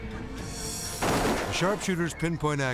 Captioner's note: gunshot fires